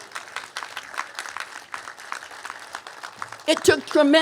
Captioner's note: applause